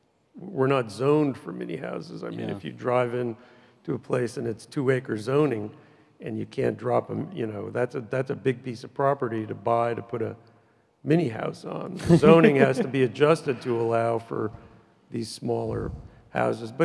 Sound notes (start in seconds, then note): 12.0 laughs loudly